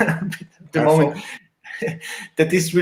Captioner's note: chuckles